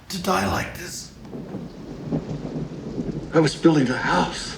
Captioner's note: thunder rumbling